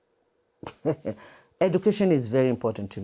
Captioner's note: laughs softly